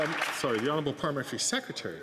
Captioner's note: some Applause